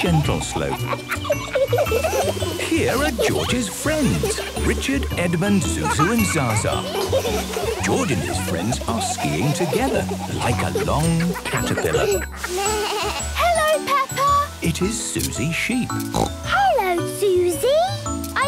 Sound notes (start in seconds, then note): 0.7 kids laughing; 12.5 bleating; 16.1 snorting